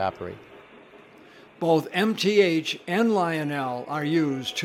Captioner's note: voiceover